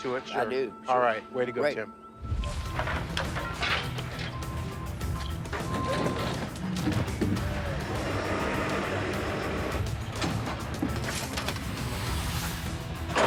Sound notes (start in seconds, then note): 4.5 trucks revving; 5.5 intense music